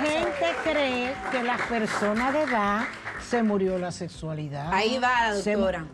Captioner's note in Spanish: aplausos